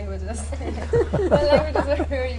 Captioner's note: laughter